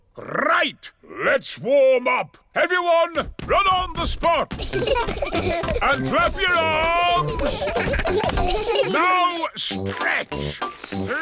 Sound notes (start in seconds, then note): 4.5 children giggle